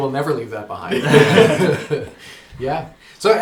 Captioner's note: all laugh